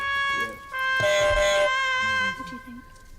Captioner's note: loser's sad trumpet; buzzer